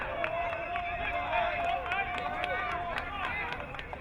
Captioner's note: crowd cheering